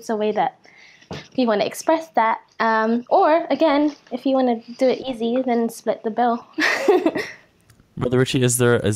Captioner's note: laughs